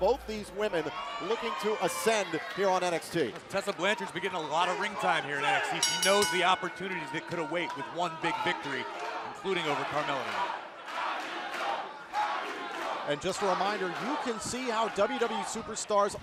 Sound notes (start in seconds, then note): 5.8 bell ringing; 11.3 fans chanting